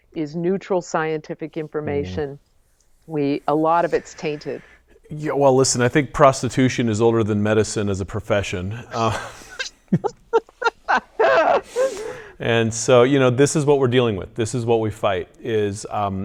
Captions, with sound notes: is neutral scientific information, a lot of it is tainted. - Well, listen, I think prostitution is older than medicine as a profession. (laughs) And so, this is what we're dealing with, this is what we fight.